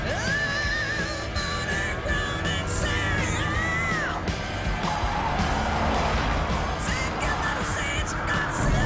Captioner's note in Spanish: Ruido de los vehículos